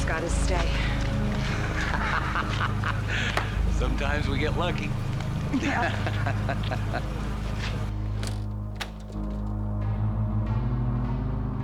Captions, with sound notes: - Carl Pines just got his stay. - (laughing) Sometimes we get lucky. (chuckling) - Yeah!